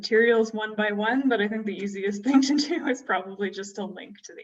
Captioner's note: laughter